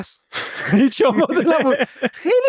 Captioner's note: laughs